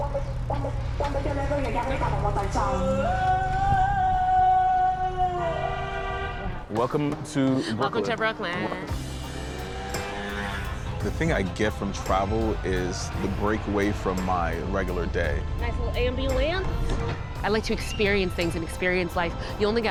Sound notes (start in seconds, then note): 0.2 catchy music; 5.5 car horn blares; 9.3 motorcycle engine revving